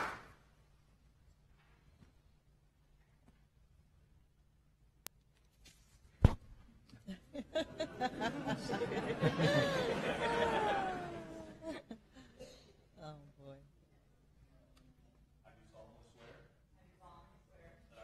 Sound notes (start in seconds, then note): 7.0 applause; 10.7 laughter